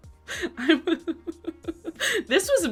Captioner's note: giggles